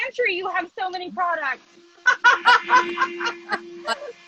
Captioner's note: laughs